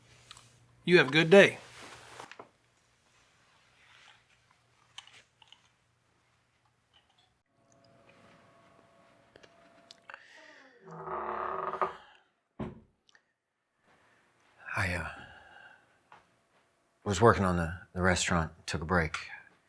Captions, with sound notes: - You have a good day. (door creaking) - I was working on the restaurant, took a break.